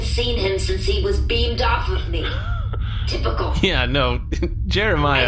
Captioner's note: laughing